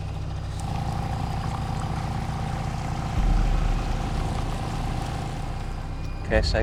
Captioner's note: water sloshing gently; boat engine revs